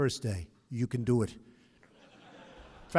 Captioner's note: laughter